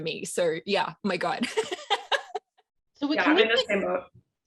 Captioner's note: laughs